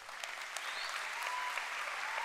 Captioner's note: applause